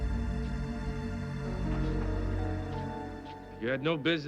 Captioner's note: footsteps shuffling